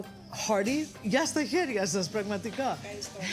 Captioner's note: speaking greek